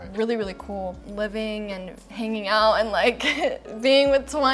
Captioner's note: chuckles